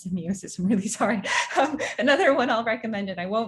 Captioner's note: laughs